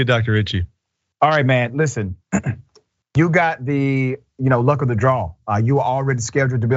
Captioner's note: cough